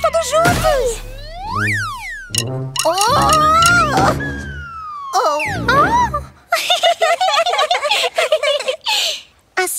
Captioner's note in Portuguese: Risos